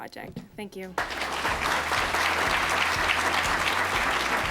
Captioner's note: applause